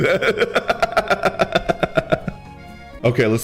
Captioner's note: laughs